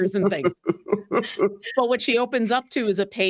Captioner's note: cast members laughing